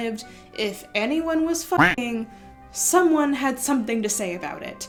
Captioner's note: quack